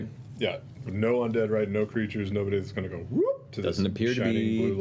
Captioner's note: whoop